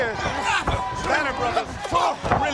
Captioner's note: fighters exclaim